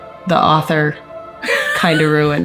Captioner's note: chuckling